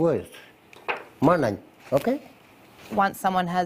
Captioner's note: speaks Indigenous language